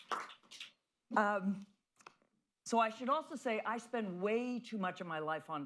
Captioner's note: applause